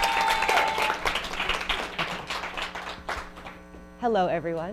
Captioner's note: audience cheers